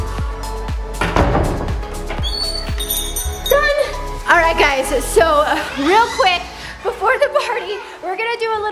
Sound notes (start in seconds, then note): 2.3 present bell jingling